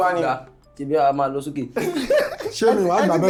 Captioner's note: laughs